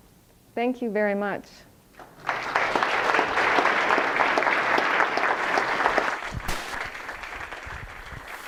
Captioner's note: applause